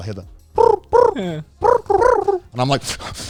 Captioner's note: trilling